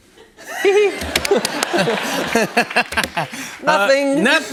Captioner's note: laughter